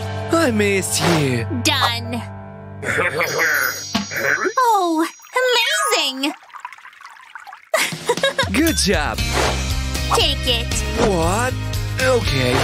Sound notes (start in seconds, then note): 2.8 making happy sounds